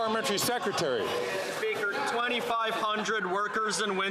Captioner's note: some Applause